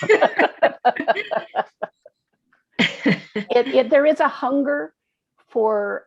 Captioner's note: laughter